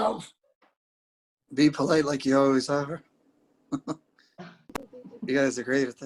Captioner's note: chuckles